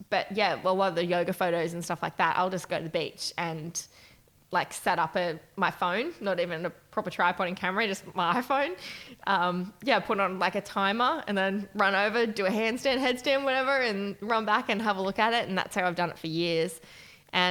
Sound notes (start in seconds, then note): none